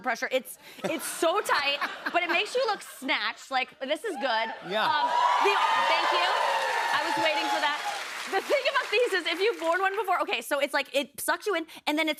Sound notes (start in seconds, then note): 4.5 cheers and applause